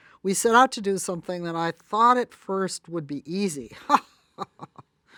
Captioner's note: laughs